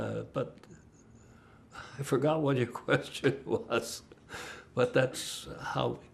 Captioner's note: laughing